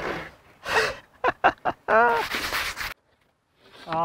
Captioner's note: laughs